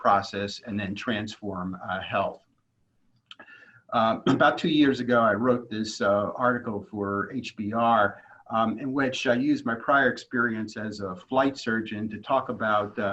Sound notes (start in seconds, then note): 4.1 cough